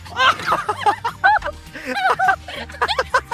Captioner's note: laughs